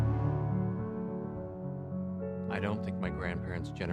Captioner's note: narrating